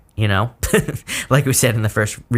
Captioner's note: giggles